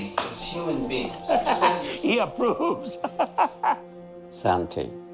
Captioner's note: laughing